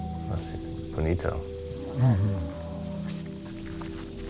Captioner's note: speaking Spanish